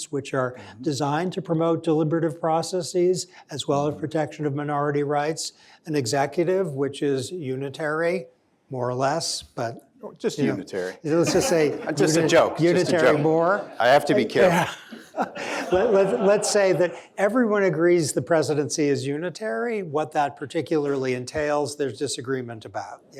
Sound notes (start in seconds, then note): 11.2 laughter